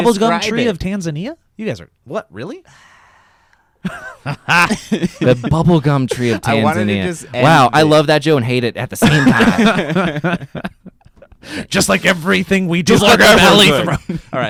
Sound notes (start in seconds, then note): 3.8 laugh; 9.0 everyone laughs